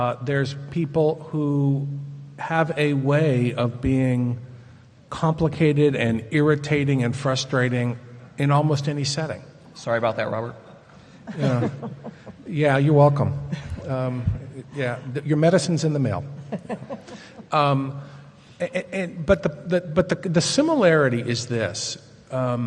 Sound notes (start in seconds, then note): 11.2 chuckles; 16.4 laughs